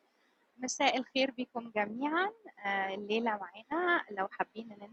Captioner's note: speaking in foreign language